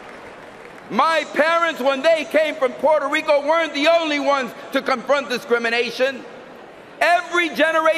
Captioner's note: cheering and applause